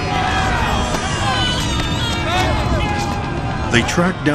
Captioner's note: baby cries